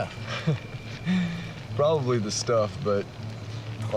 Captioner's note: chuckles